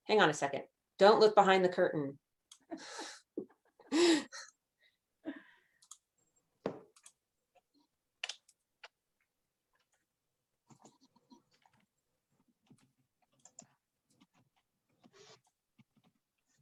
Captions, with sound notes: Hang on a second. Don't look behind the curtain. (chuckles) (keyboard keys clicking)